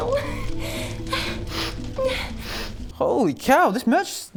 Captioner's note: sniff sniff